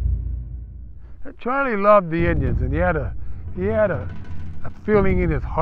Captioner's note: voiceover